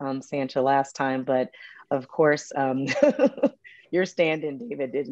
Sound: chuckles

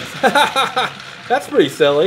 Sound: laughs

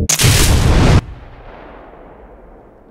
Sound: large explosion

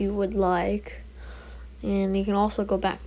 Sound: breath

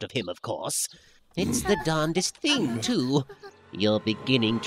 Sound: Namekians grunt / whimper in fear

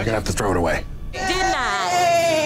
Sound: people yelling

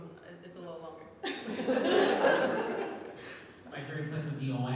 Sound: audience laughing

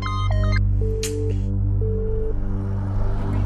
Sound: phone engaged

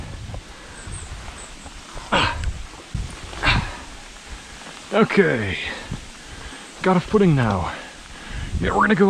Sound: more pain noises

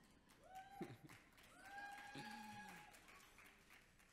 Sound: audience cheers

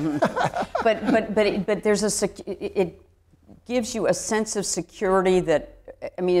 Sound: laughs

